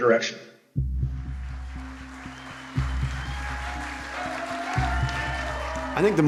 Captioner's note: cheers and applause